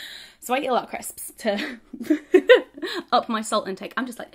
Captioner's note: laughs